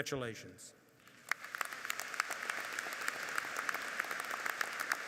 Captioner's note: audience applauds